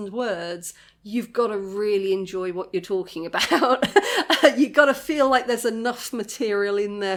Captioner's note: laughing